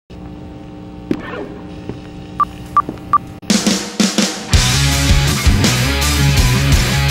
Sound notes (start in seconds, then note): 0.2 guitar amp buzzing; 3.0 beeps; 3.4 intense rock music